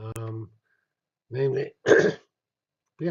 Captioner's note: cough